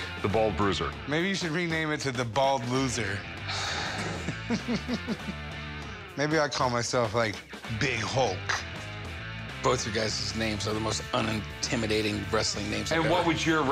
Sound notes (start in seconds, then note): 3.4 sighing; 3.6 chuckling